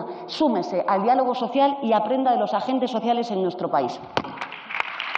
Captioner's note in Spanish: Aplausos